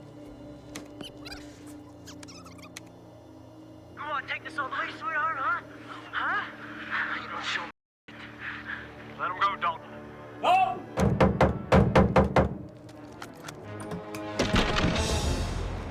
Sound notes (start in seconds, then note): 0.8 tape squeaking; 12.5 fists thudding